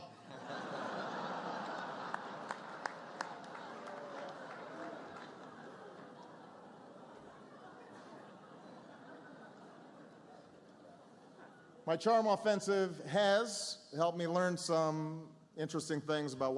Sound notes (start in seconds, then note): 3.8 laughter, applause